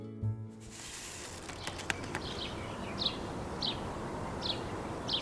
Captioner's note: birds chirping